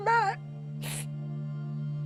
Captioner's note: sniffles